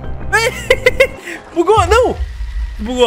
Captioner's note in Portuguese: risos